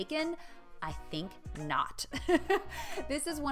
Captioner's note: laughs